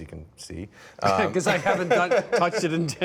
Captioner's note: laughs